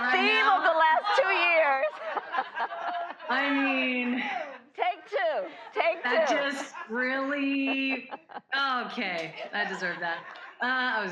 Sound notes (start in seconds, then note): 1.0 laughter; 10.3 laughter